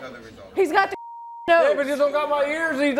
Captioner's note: beep